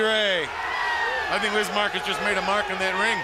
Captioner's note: crowd cheering